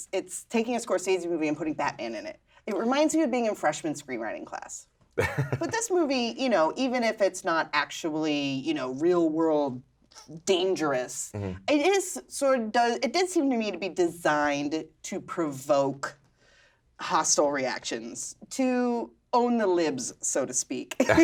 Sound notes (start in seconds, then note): 5.2 laughs